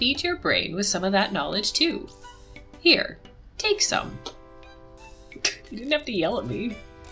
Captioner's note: laughs